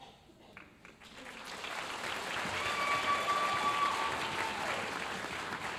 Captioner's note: audience cheering and applauding